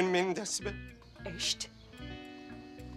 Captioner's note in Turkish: Almanca konuşma